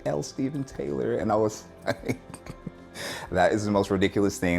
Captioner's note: laughs